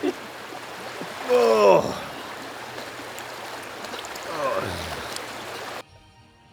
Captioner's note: relaxing grunts